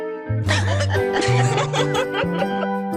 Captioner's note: laughter